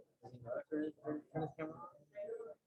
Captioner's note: side chatter